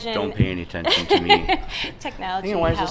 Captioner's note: voiceover